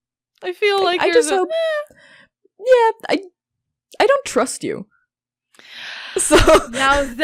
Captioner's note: laughs; scandalized inhale